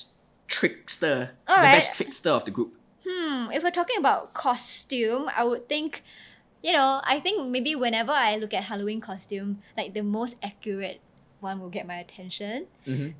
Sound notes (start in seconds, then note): none